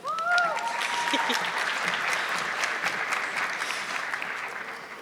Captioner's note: audience clapping